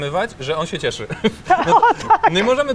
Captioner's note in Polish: śmiech